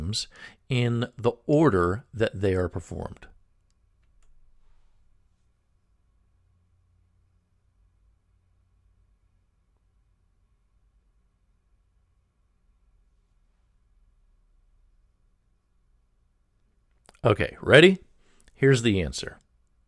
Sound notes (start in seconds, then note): 3.8 pause